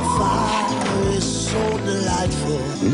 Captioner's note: door closes